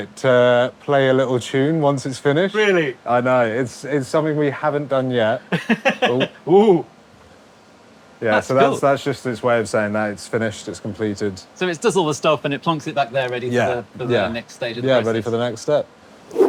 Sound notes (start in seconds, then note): 5.4 giggles